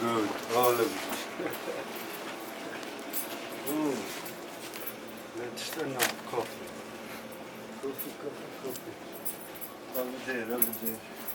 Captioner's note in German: Lacht